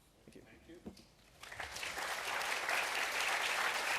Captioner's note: applause